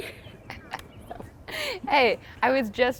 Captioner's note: both laughing